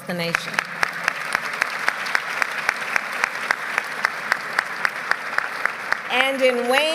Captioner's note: applause